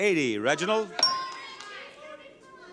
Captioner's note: counter beeps; audience chatters